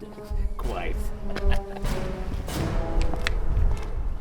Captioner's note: laughing